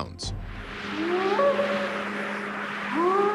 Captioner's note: short howls